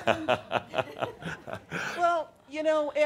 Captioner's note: chuckles